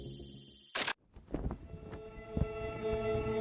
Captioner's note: flag flapping; tense music